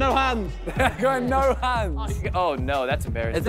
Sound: laughing

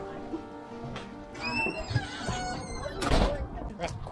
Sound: squeaky Door

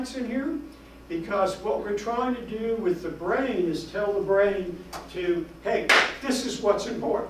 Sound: claps

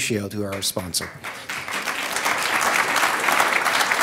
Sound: applause

